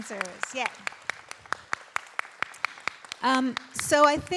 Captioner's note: everyone applauds